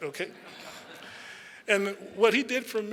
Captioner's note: audience chuckles